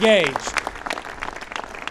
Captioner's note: applause